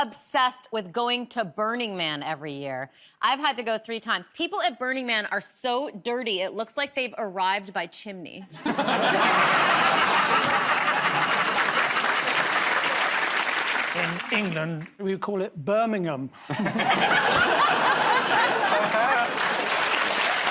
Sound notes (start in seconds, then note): 8.5 laughter; 11.7 applause; 16.4 laughter